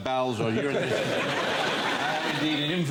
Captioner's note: laughter